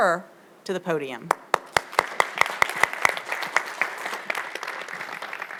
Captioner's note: audience applauds